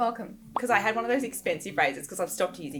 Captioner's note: pop